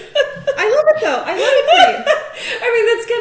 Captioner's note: laughing